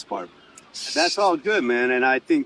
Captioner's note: scoffs